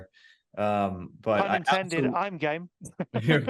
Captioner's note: laughing